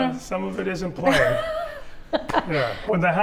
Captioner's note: chuckling